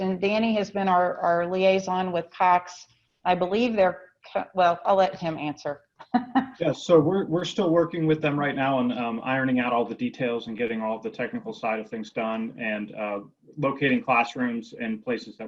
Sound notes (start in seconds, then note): 6.6 laughs